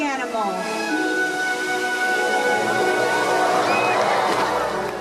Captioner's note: cheering